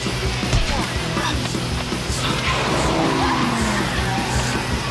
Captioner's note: tires screeching